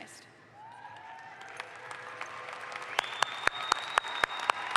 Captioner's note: audience applauds